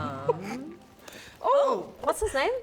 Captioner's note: chokes